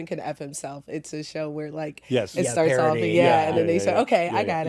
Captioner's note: all agreeing